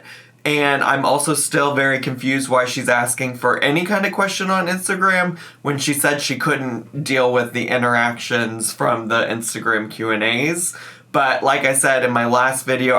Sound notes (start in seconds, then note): none